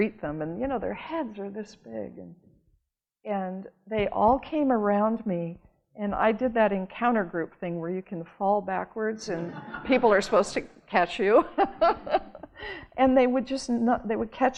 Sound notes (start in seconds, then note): 11.6 cheerful laughing